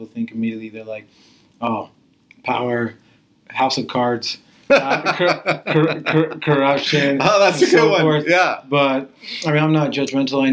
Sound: laughs

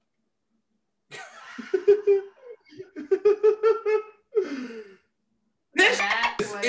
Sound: laugh

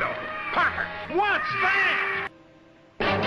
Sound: oh yeah birds are squawking in the background too; bird squawk

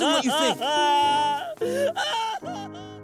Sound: crying

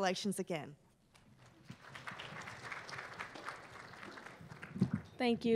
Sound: applause

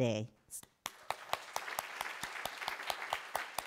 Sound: applause

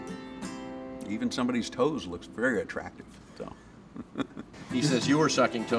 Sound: laughs

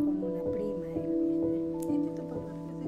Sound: mother talking

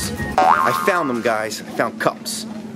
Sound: boing

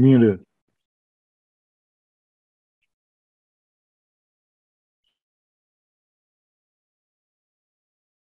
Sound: no audio

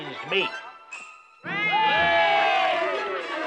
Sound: boys cheer

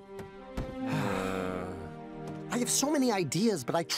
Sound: both sigh

